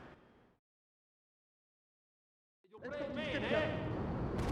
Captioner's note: speaking in foreign language